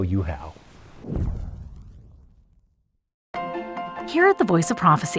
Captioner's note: air whooshes